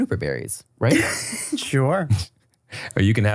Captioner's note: laughs